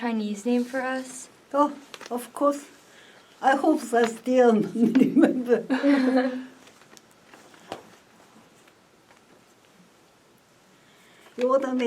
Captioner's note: laughs